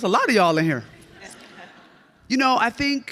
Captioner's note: audience laughs